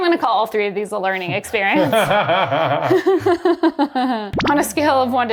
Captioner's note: both laughing